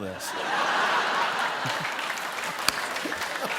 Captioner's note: laughter